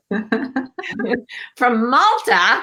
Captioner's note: laughs